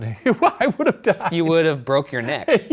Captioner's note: laughing